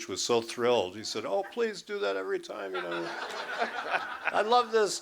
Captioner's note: laughter